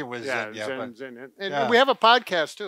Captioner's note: mumbles